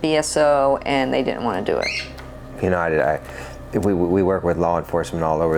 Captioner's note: bird squawking